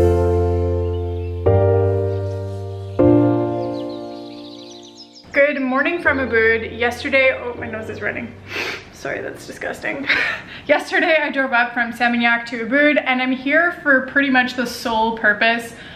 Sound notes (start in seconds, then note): 0.1 calm piano music; 0.9 birds chirping; 8.4 sniffling